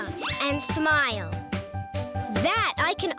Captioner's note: pinging sound